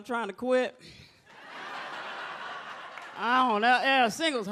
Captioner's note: audience laughs